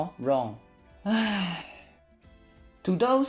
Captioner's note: sigh